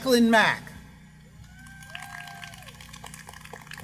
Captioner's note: applause